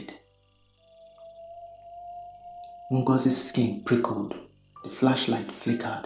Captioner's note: whistle